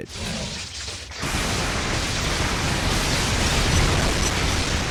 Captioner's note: electricity crackling; lightning booming